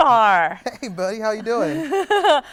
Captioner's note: chuckling